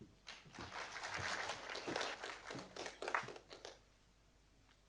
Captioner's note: audience applauding